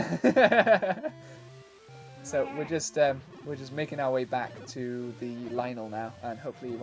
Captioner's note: laughs; bleats